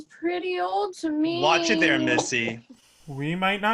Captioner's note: sourly